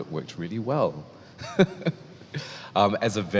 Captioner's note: laughs